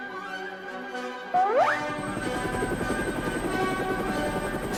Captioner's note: increasing sound of helicopter engine